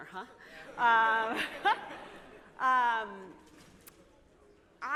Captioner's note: laughter